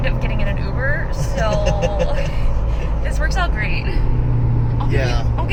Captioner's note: laughing